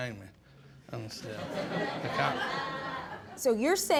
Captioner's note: audience laughs